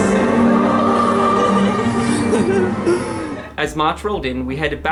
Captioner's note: dramatic music; laughing